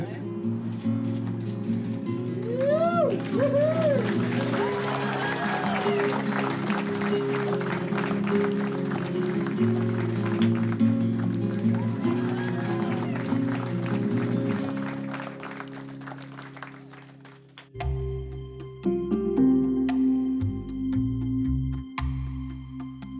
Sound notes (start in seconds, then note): 0.0 warm guitar music; 2.4 cheering, applause; 12.2 cheering, applause